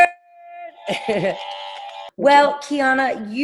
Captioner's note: buttons beeping; chuckling